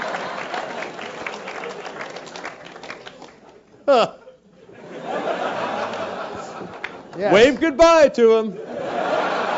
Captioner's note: laugh; applause; laugh